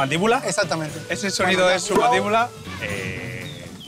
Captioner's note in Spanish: sonido seco